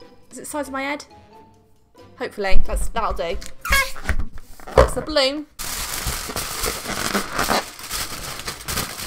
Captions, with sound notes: Is it the size of my head? Hopefully, that's- that'll do. *Balloon releases air* That's the balloon.